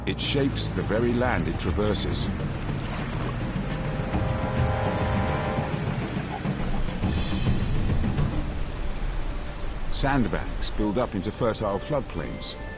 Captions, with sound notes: It shapes the very land it traverses. (water rushing) (intense music) Sand banks build up into fertile flood plains,